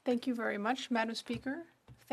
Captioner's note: speaking French